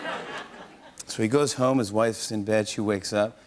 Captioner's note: slurring; normal voice